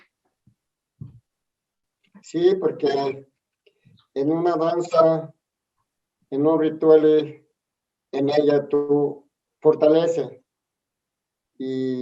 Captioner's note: answers in Spanish